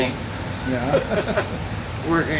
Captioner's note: laughs